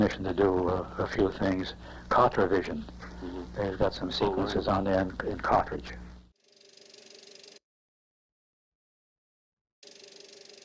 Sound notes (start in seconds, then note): 6.3 whirring